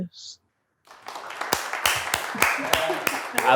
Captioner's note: applause